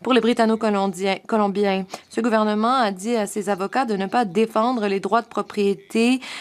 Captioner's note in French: voix de l'interprète